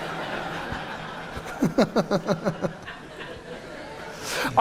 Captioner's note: audience laughing